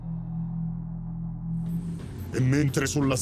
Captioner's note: spaceship sounds